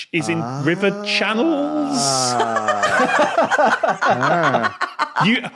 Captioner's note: laugh